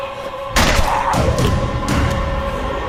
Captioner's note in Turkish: Silah patlar